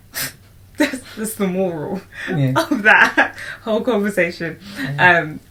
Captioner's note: laughs